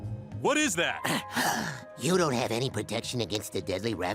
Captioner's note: sighs